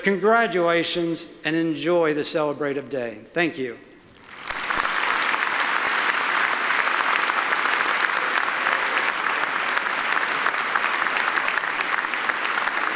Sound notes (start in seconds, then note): 4.2 audience applauding